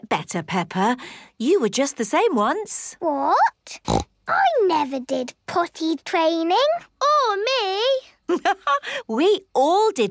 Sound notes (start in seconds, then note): 3.8 snorts; 7.1 laughs